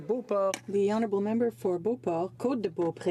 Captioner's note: speaking French